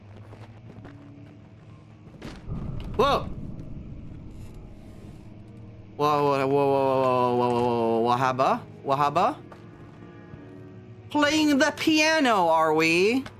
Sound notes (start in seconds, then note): 0.0 shuffling noises; 2.2 door slam